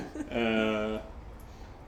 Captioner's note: both laugh